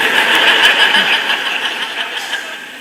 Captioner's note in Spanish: Risas